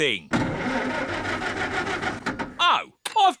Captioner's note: engine stalls